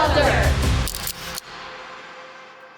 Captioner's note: camera click